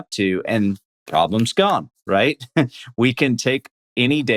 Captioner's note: laughs